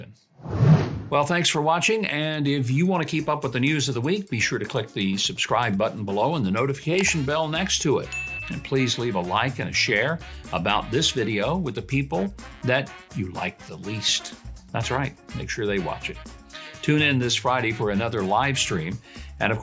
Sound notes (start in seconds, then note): 0.4 air whooshing; 8.0 bell dings